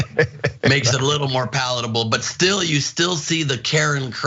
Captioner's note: laugh